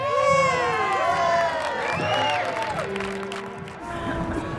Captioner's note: cheers and applause